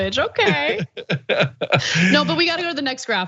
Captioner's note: laugh